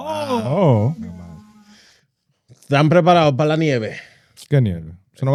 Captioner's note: speaking In Foreign Language